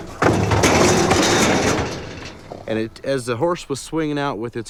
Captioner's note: loud rattling and clanging